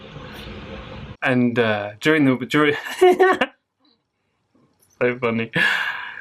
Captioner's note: laughter